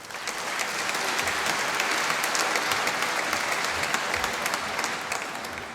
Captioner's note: applause